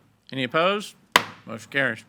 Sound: gavel thuds

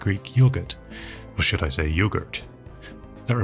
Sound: American accent

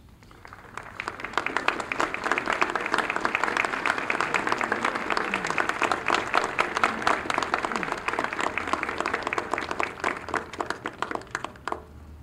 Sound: applause

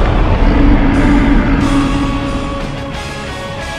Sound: Giant Mario Roars

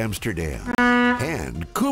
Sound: horn honking; upbeat music

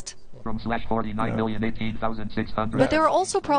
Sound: computerized male voice

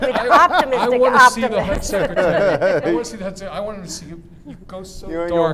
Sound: laughter

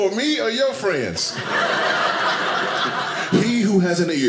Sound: audience laughing

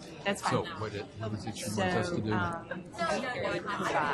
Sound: voiceover

